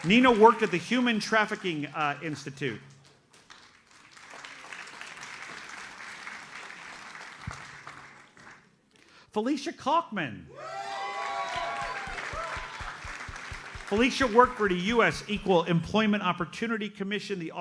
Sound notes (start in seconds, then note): 3.0 audience applauds; 10.5 audience cheers and applauds